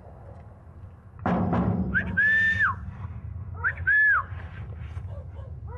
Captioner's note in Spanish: silbido